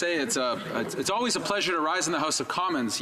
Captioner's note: speaking in french